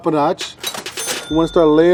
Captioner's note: dings